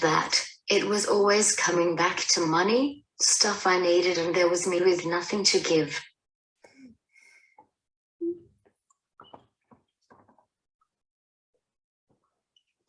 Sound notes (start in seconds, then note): 8.2 crying silently